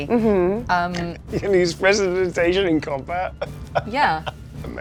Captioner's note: laughs